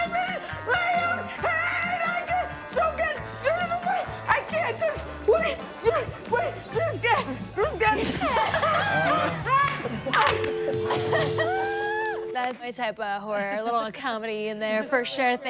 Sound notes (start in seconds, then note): 8.6 judges laughing